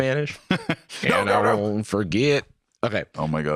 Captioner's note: laughs